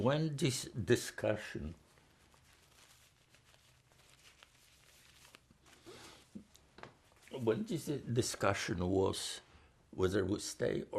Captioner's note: pauses 6 seconds